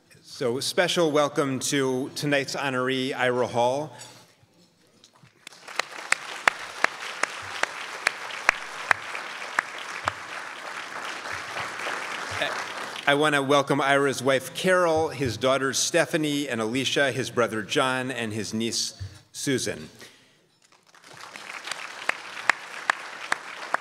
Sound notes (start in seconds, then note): 5.4 crowd applauds; 20.7 crowd applauds